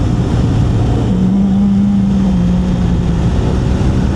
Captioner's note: engine